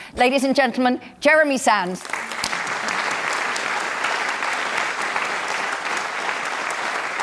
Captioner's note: applause